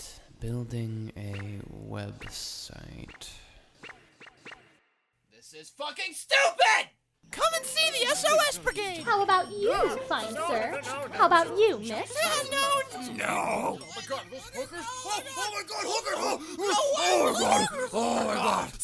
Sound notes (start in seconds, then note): 13.9 hooker-wanting men begin to make noise off screen